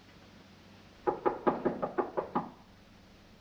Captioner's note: knocking on door